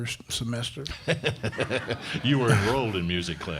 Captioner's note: crowd laughing